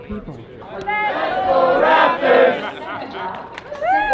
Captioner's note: crowd; clapping